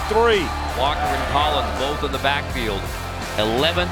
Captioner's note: voiceover